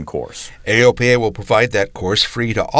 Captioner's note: voiceover